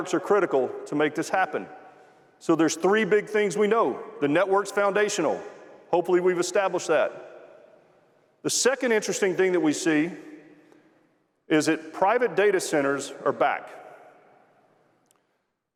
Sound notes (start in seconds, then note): none